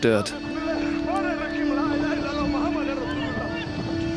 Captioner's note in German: Aufgeregtes Gespräch des Videos